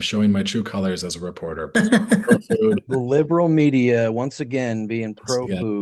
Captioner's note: laughing